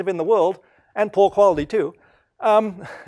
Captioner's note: laugh